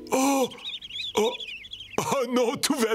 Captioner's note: birds Chirping